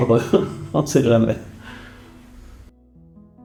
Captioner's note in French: rires